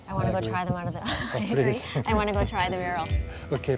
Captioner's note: laughing